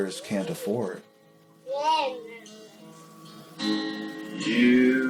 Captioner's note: child babbling